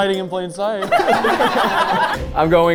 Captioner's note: all laughing